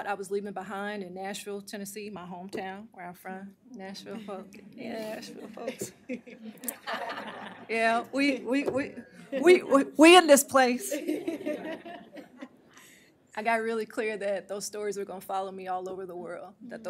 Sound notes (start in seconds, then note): 5.4 laughter